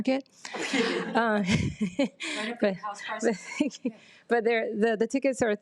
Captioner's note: participants laughs